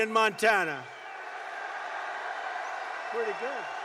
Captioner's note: applause